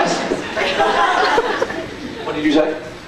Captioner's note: scattered laughs